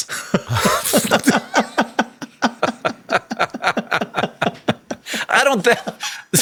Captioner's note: Sam laughing; Hank laughing